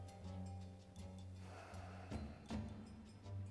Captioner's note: sighs